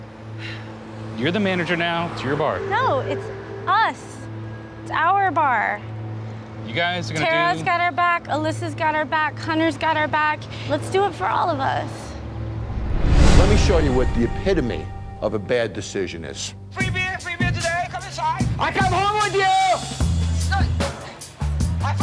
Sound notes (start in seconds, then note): 0.2 sighs; 12.4 logo whooshes; 20.0 mellow music